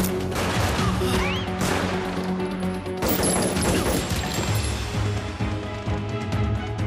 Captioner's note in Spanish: Disparos